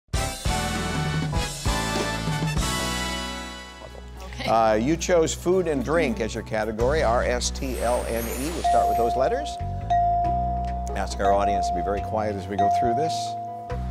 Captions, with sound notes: (upbeat music) - Okay. - You chose food and drink as you're category, R, S, T, L, N, E, we'll start with those letters. (bell dinging) Ask our audience to be very quiet as we go through this.